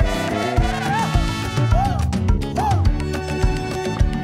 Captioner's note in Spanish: Grito / Oihua